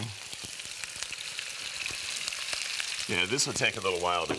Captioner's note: sizzling